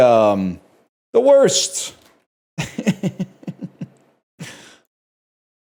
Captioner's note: chuckles